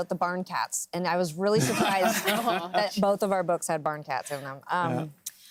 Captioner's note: laughter